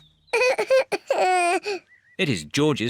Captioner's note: cries